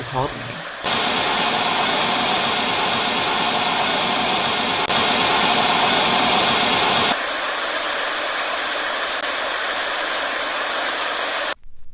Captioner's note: intermittent static fades